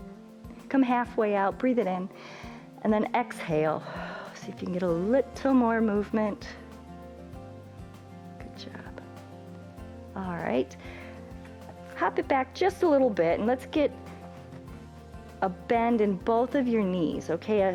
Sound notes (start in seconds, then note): 2.1 exhales; 2.2 inhales